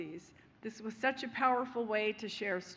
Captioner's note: none